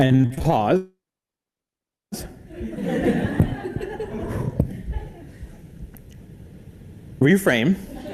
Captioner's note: laugh